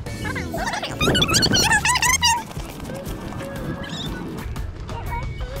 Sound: fast forward talking

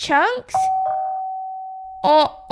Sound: doorbell

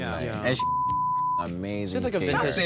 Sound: beep

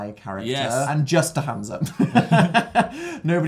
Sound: laughs; lauhgs

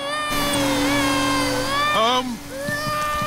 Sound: crying

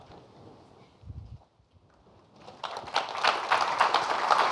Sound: applause

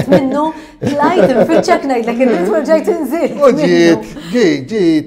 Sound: laughs

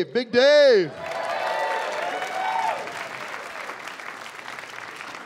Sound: cheering and applause

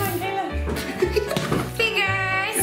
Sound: laughs

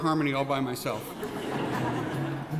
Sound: laughing

